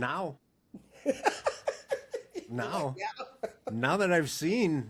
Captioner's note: laughing